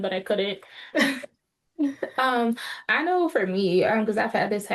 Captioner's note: laughs